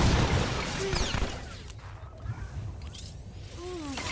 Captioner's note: gun firing